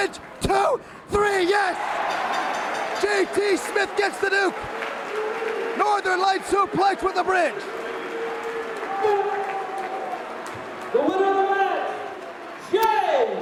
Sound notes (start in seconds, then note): 9.4 crowd cheering